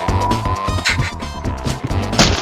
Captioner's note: laughs to myself